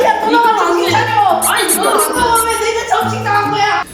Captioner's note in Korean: 쓱싹